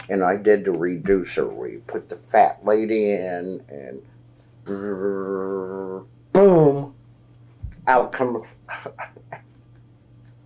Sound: makes buzzing noise; laughs

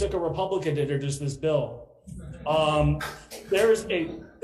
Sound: assembly laughing

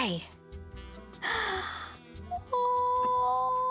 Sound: gasps

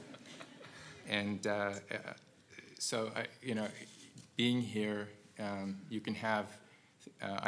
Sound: laugh

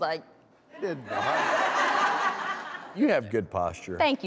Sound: audience laughs

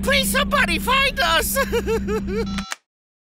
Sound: crying; beeps

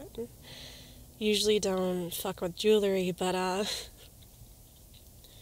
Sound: laughs

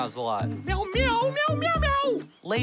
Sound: meows

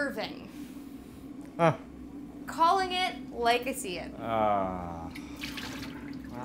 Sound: Nathan sniggers

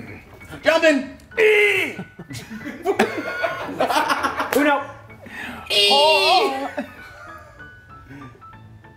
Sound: laugh

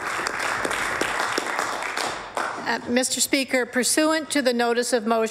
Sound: applause

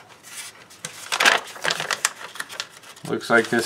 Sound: paper crinkling

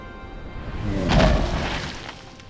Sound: thudding

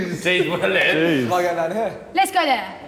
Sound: speaking in foreign language

